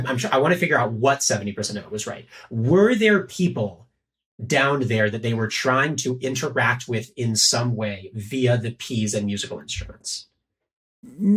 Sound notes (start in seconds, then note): none